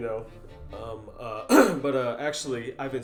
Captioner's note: Blaine clears throat